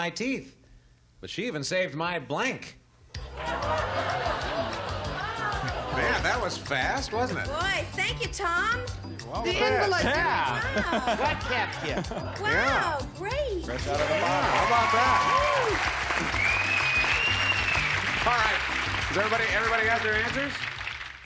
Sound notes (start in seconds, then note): 4.9 laughter; 17.4 cheers